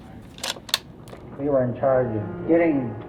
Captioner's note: inserting new cassette tape